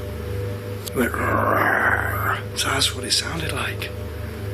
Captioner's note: growls